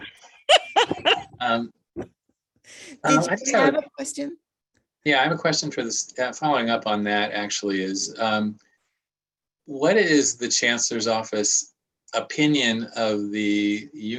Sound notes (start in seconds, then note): 0.0 laughter